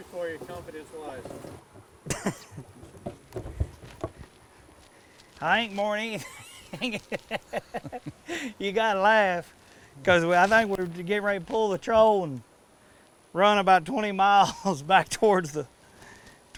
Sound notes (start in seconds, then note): 6.1 laughing